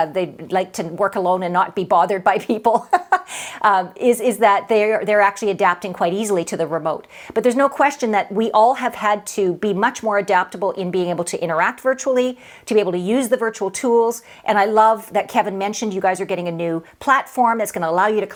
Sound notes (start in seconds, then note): 2.7 laughs